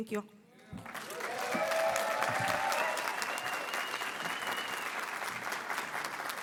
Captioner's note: audience applauding and cheering